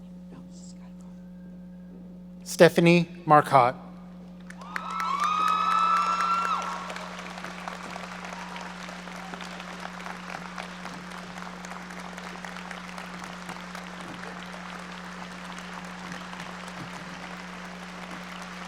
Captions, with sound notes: Stephanie Marcotte. (loud cheering) (loud applauding)